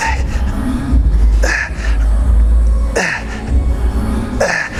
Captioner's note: grunting